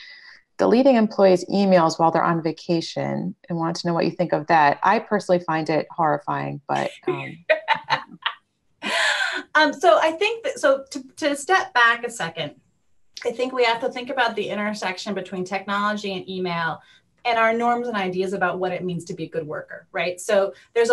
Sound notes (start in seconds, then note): 7.0 laughter